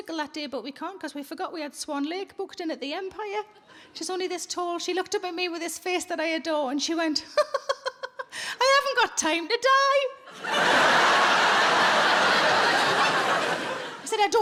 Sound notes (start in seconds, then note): 7.8 laughs; 10.3 audience laughing